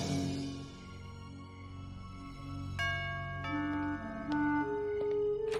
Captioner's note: doorbell ringing